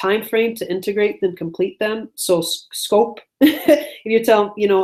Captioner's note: laughs